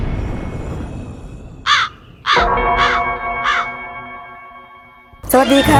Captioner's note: crow